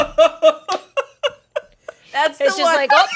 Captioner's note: everyone laughs